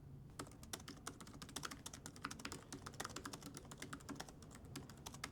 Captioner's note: laptop keyboard clicking